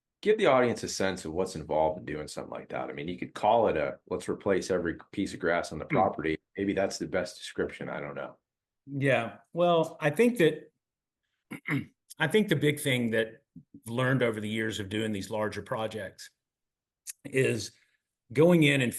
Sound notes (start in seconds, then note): 11.5 cough